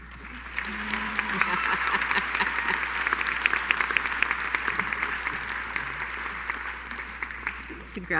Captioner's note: applause